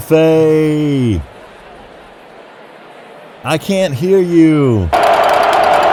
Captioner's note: low crowd noise; crowd roars